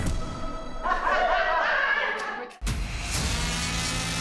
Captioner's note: inmates laughing; tense music